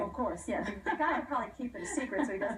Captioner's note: laughter